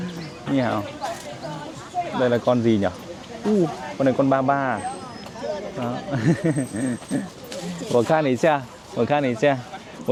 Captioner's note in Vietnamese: Tiếng cười